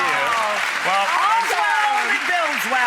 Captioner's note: applause